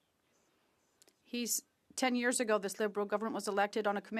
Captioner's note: speaking French